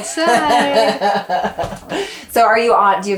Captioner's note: laughs